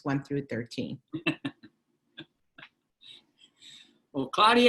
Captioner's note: laughter